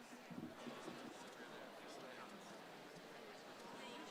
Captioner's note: crowd chattering